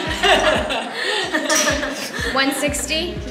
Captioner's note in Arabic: يضحك